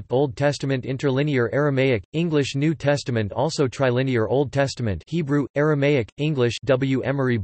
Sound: Hebrew/Aramaic/English

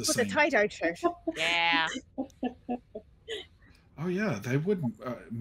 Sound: laughing

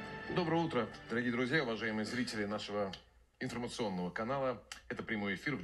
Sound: speaking in Russian

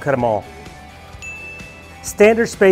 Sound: bell chimes

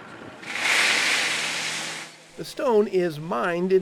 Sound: gravel rumbling

